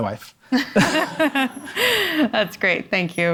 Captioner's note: panel and audience laughing